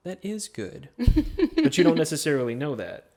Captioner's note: chuckles